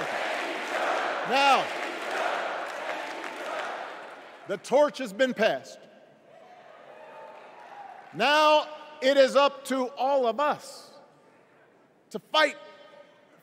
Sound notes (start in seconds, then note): 2.9 crowd chanting